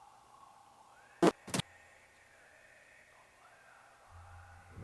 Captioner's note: static crackling